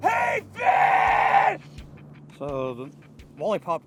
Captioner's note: yelling